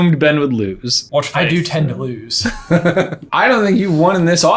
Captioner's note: laughing